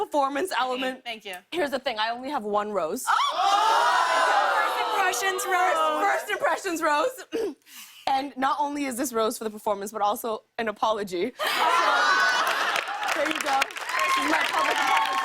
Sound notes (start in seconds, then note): 2.5 audience "Ohs"; 11.4 laughter and applause; 15.0 cheers and applause